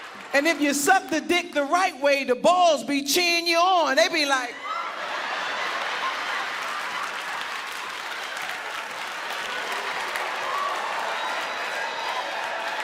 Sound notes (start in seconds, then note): 6.5 audience applauding; 6.5 audience laughing